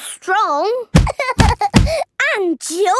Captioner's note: banging